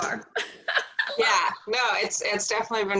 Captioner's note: laughing